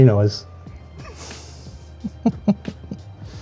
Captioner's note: laughs